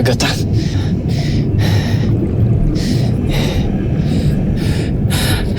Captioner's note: swirling